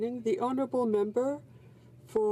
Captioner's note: speaking in french